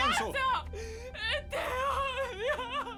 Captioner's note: cries uncontrollably